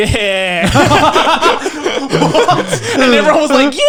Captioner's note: all laughing